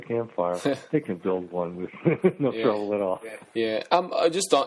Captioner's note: chuckles